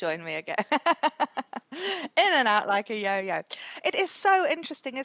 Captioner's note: laughs